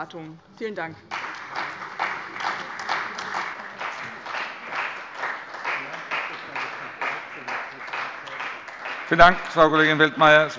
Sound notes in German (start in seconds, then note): 1.0 Beifall bei dem BÜNDNIS 90/ DIE GRÜNEN und der CDU